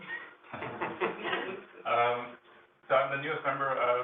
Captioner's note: laughs